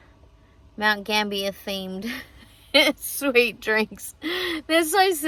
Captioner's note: chuckles